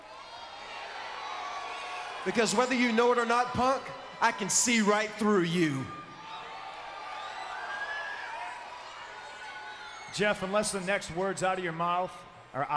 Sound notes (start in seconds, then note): 0.2 crowd cheers; 6.4 crowd cheers and whistles